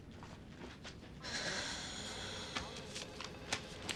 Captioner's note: kerry exhales deeply